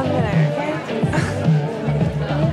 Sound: girl laughs

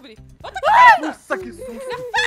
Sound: laughing; screaming

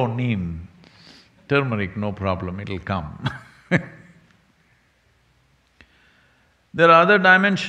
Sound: laughs

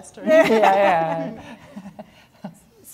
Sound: laughing

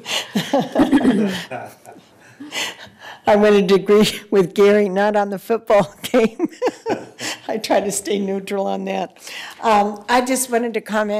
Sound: laughter

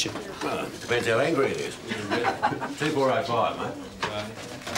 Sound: laughs

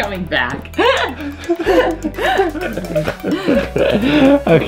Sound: laughter

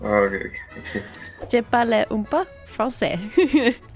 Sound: French

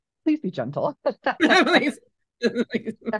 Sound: laughter

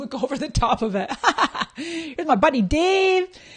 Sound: laughing

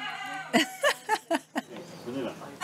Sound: laughs

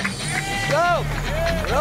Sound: clapping and cheering

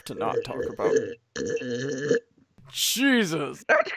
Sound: loud slurping noises

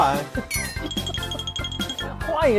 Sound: hahaha

